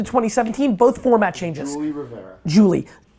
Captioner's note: phone ringing